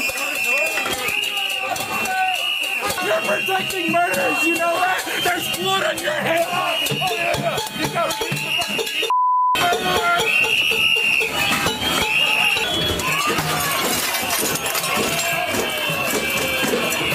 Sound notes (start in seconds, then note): 5.6 background chaos; 6.6 whistle blowing